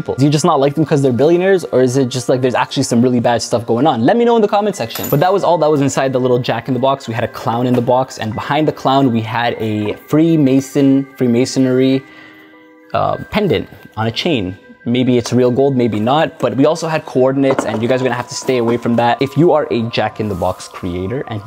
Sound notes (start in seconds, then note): 4.9 necklace clinks